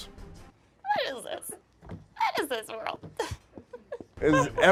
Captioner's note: laughs